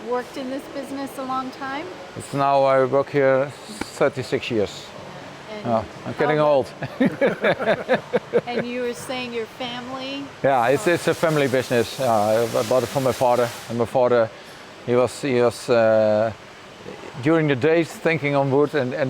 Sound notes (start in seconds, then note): 6.7 laughter